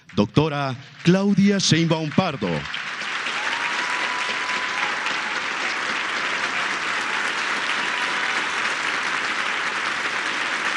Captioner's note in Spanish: aplausos